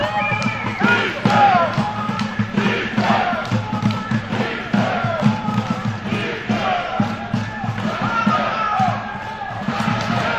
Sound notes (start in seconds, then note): 0.0 whistle; 2.0 whistling